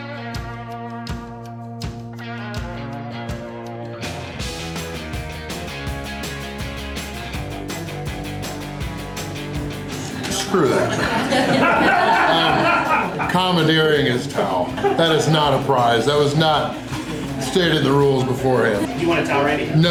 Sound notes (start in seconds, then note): 10.4 laughter